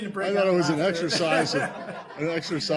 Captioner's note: laughter